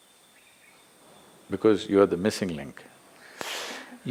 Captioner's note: laughs